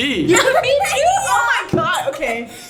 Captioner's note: laughs